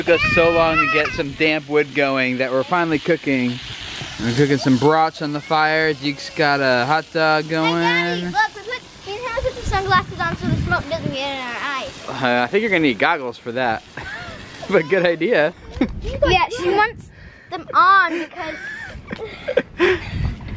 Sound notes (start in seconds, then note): 13.9 laughs; 18.0 laughing